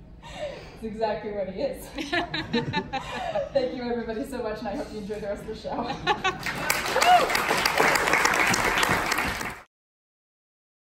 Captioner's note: laughter; applause